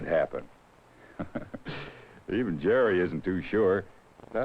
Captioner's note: chuckles